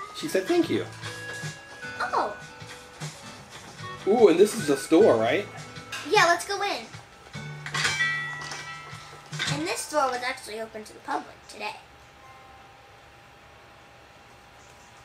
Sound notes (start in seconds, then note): 7.8 bell dinging